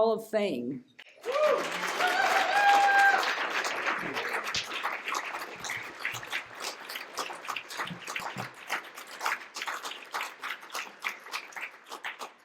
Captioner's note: cheers and applause